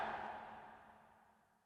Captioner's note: crowd cheering